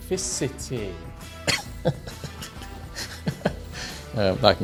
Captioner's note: laughs